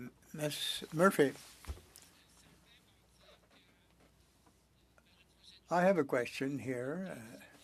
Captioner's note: speaking French